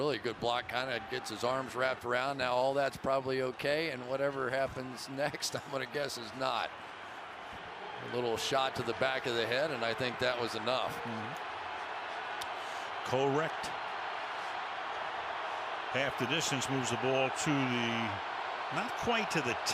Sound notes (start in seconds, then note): 7.9 cheering